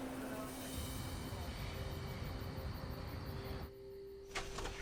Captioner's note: insects chirping